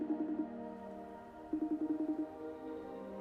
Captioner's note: computer chiming